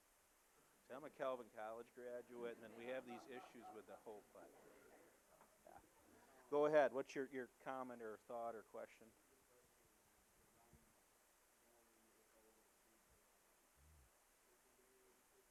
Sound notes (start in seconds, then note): 4.6 audience laughing